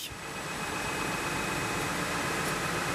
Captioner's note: machine humming